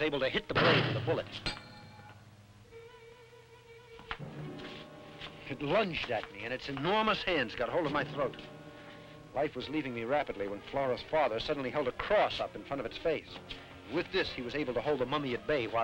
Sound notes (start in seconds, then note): 1.3 knife clangs; 4.2 tense music